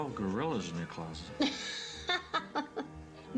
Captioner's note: laughing